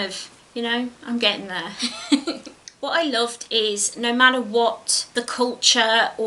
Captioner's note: giggles